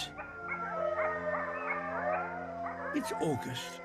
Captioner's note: howling and barking